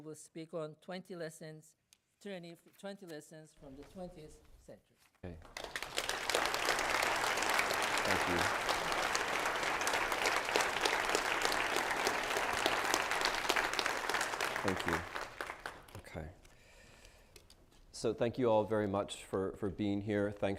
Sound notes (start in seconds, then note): 5.7 applause